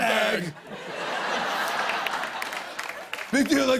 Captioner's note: laughter